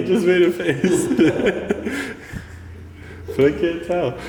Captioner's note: laughing